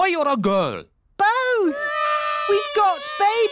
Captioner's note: babies cry